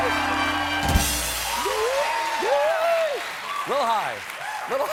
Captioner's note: cheers and applause